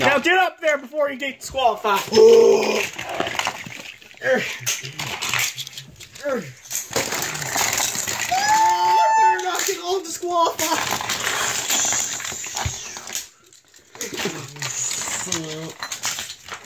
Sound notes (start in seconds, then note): 8.2 screaming